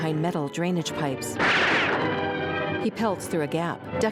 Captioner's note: gunshot